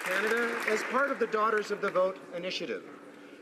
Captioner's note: applause